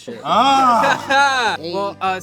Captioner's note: laughs